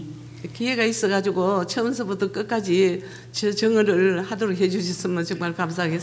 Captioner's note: speaking foreign language